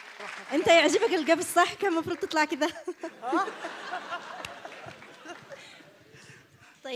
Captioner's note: more awkward laughter